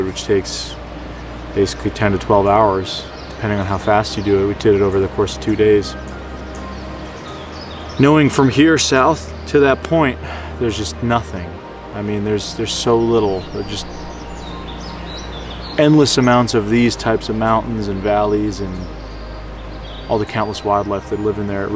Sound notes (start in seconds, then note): 6.8 birds chirping